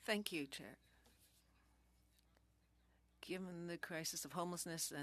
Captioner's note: speaking French